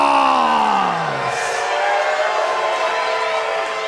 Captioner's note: crowd jeering